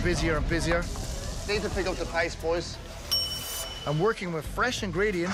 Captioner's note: kitchen bell